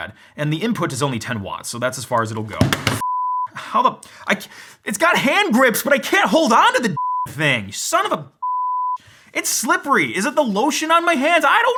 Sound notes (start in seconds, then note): 3.0 beep; 7.0 beep